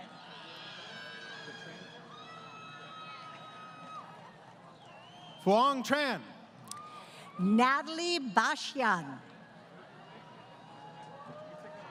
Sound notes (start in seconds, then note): 0.0 crowd Cheering